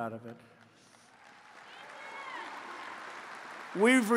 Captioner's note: applause